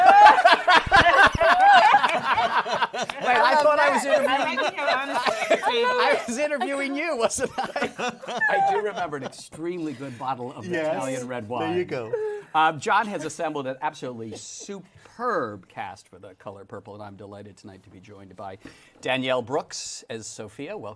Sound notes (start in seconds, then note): 0.2 laughter; 6.6 laughing